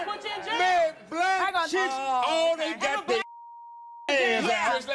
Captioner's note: beep